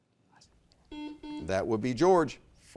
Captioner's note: buzzer beeps